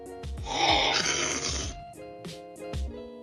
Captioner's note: slurping